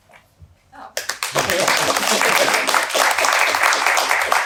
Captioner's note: audience applauding